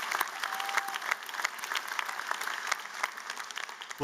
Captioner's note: applause